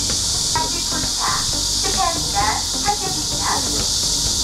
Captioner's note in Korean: 기계음